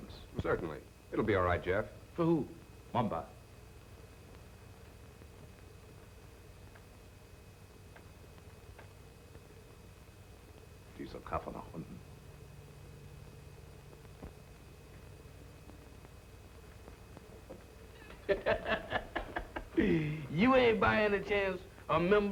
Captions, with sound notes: Certainly. It'll be all right, Jeff. For who? Momba. [speaking german] --[laughing] You ain't by any chance a member